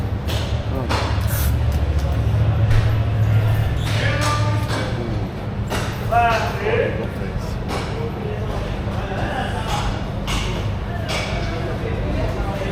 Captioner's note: crowd chattering